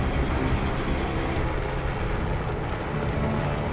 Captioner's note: helicopter flying